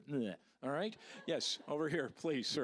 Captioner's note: audience laughing